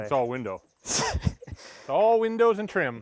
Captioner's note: chuckles